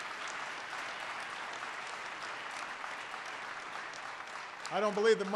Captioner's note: applause